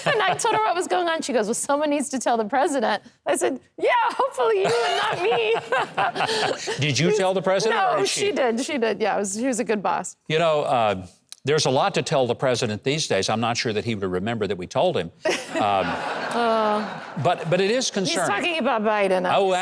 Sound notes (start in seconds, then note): 4.6 both laughing; 15.3 audience laughing